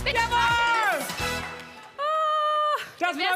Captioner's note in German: Aufschrei